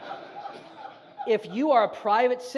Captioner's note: audience laughs